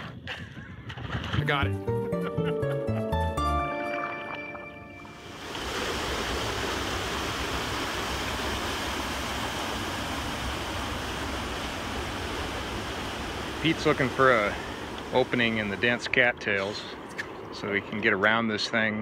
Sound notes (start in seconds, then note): 3.2 upbeat music; 5.1 rushing waterfalls